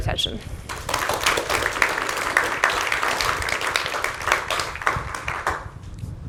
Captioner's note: applause